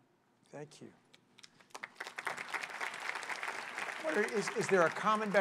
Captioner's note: applause